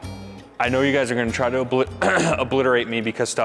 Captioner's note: clears throat